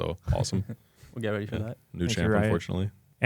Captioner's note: laughs